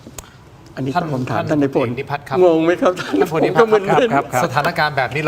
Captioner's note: laughs